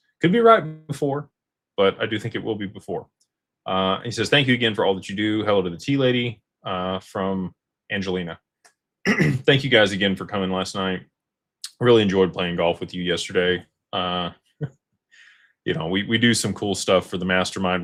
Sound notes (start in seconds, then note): 9.0 clears throat